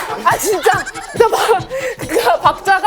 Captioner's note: laughing